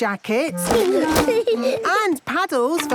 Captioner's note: giggling